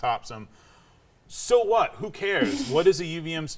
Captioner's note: laughing